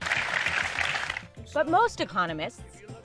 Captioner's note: audience applauds